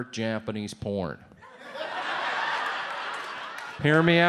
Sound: audience laughs

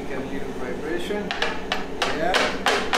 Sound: chocolate mold tapping

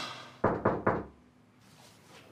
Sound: knock at door

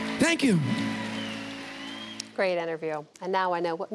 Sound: applause

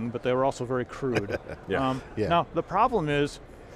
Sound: chuckling

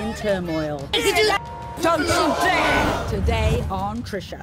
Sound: women yelling at each other

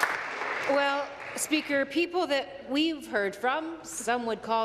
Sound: applause

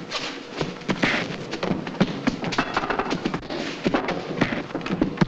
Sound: punches landing

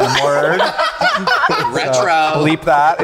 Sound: group laughing

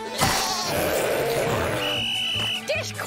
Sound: bleating; whistle blowing

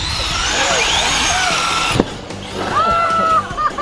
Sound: laughs; cars whirring; laughs

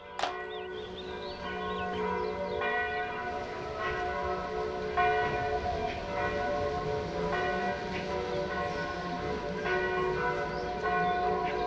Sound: church bells

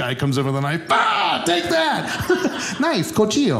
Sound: shouts

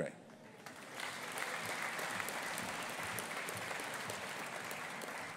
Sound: audience applauding

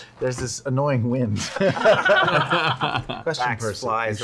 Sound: laughter

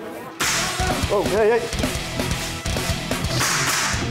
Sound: gun firing

